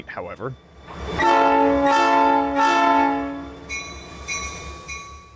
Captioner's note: diesel horn